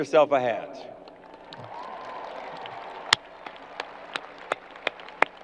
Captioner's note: crowd applause